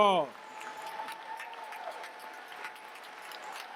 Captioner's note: cheers, applause